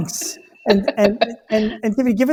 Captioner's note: laughs